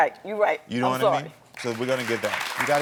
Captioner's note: audience applauding